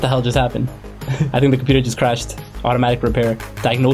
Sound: laughs

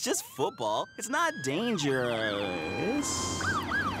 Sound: siren wailing

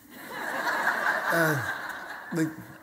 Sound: audience laughter

